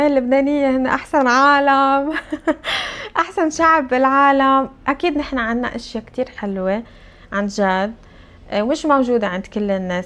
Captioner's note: laughs